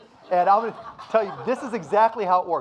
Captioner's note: audience laughing